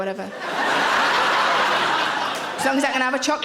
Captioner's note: audience laughing